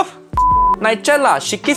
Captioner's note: signal beeping